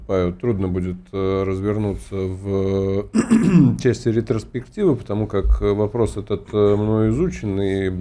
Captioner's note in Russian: откашливается